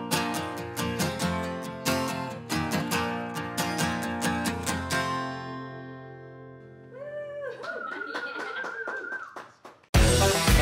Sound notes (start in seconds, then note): 7.0 cheering